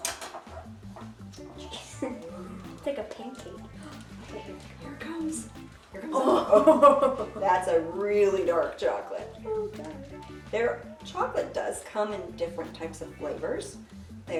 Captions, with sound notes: [gentle upbeat music] It's like a pancake. Here it comes. Oh, [chuckles] That's a really dark chocolate. There chocolate does come in different types of flavors.